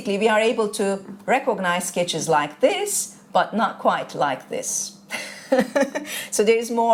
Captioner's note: laughter